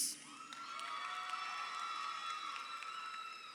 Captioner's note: crowd cheering